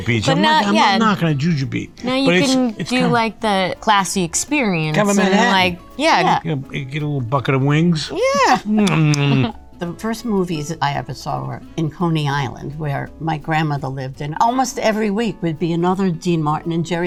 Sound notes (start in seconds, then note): 0.4 laughs; 8.2 giggles; 8.7 lips smack